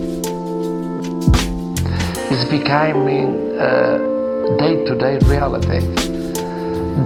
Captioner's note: mouth inhale